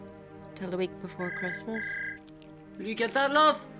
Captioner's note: phone ringing